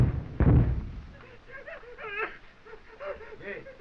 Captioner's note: soldiers whimpering